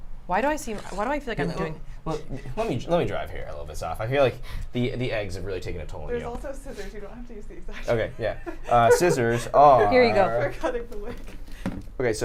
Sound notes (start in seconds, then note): 7.7 laughs